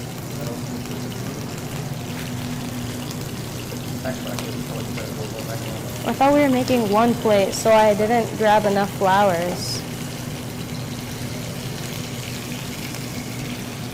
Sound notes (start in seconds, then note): 10.3 sizzling